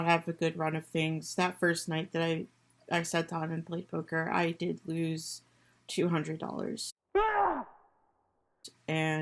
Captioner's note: scream